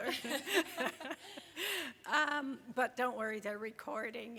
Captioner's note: group laughs